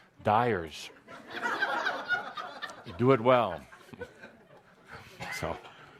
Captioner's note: laughter; chuckling